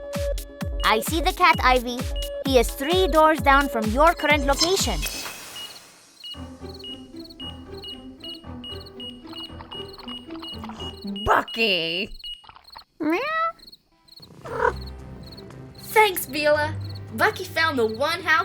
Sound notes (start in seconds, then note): 6.1 beeping; 12.7 meowing